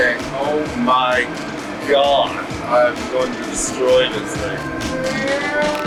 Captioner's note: exclaims